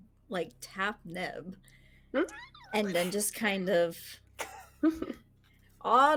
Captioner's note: laughing